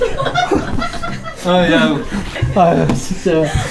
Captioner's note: rummaging